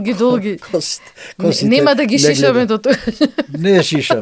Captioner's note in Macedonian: смеа